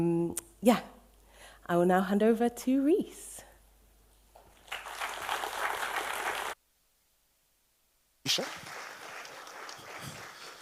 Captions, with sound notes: Yeah, I will now hand over to Reece. [AUDIENCE APPLAUSE]